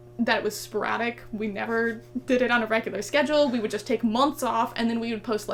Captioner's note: laughs